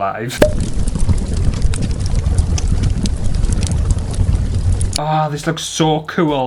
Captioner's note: fire sounds